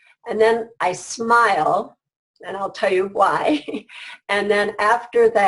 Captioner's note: laughs